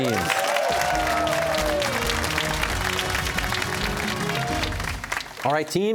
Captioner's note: cheers and applause